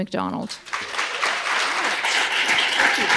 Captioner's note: applause